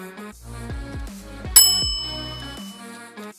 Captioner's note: bell ding of satisfaction